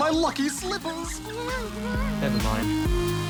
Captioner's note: whimpers